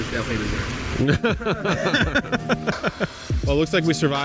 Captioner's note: laugh